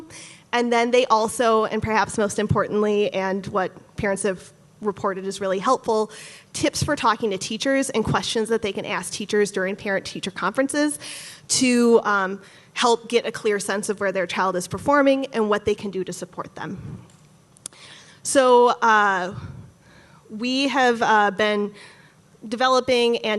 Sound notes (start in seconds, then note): none